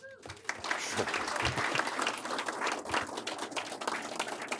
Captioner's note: audience applauding